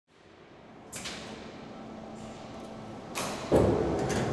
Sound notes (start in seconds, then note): 0.3 parts clicking